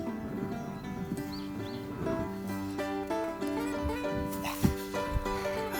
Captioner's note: laughs